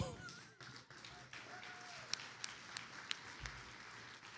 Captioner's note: attendees applauding